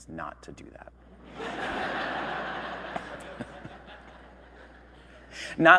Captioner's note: audience laughing